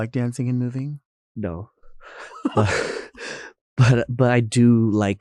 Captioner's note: both chuckling